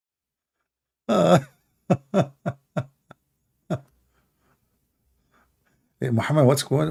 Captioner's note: Ketawa